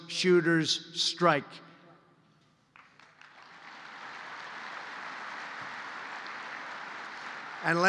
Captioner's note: applause